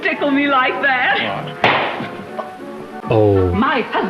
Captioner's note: loud smack